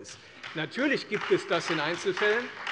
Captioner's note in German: Beifall Freie Demokraten